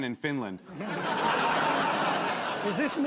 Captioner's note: laughter